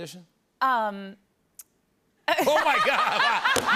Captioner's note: laughter